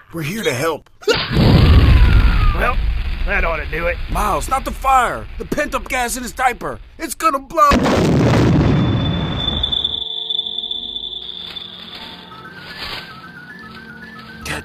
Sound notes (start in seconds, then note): 1.2 fire rumbling; 1.7 gang member screaming; 7.6 gas exploding; 8.5 air ringing